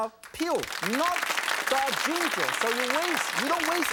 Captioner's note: audience claps